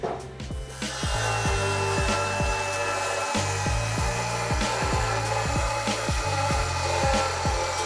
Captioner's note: motor whirring